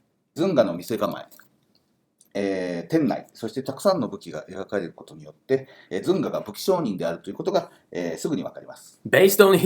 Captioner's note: speaking Japanese